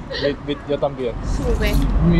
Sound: Spanish

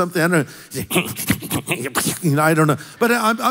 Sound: grumbles

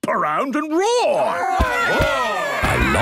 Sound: all roaring

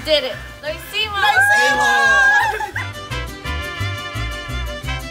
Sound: all cheering

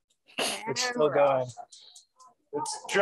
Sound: clicking

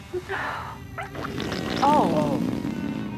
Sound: flatulence

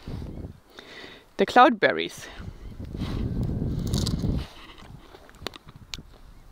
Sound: berry crunching

